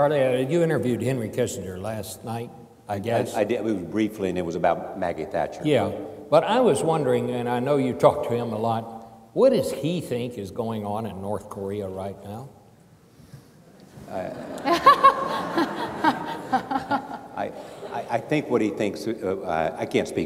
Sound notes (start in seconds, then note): 14.2 laughing